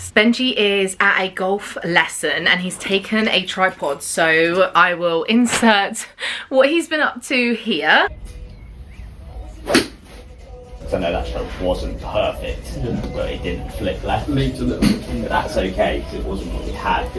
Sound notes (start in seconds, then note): 9.6 club whacks